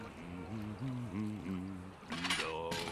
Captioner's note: humming